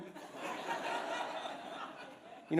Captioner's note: laughter